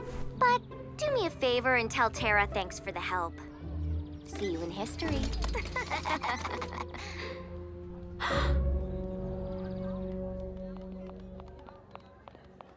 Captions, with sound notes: But do me a favor, and tell Terra thanks for the help. See you in History. [all laugh] [Jessa gasps]